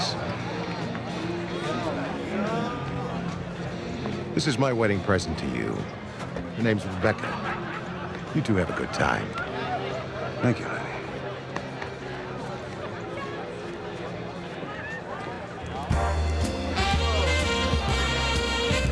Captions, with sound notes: - Thanks. (crowd chattering) (upbeat music) This is my wedding present to you. Her name's Rebecca. You two have a good time. - Thank you, Lenny. (crowd chattering) (upbeat music) (romantic music)